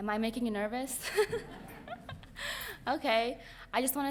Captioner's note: laughing